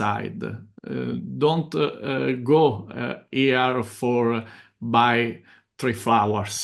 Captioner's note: chuckles